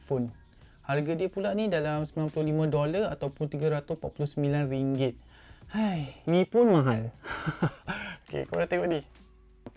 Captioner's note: sigh